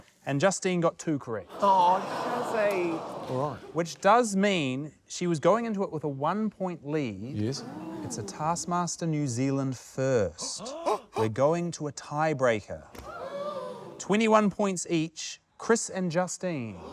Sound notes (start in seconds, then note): 13.0 gasps